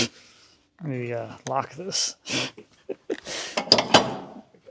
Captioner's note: chuckles